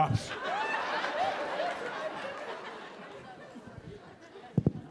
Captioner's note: audience laughing